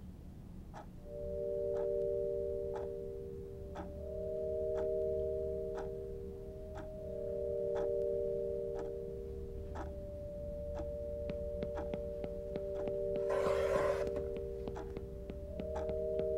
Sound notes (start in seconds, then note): 0.1 lonely music; 13.1 foot tapping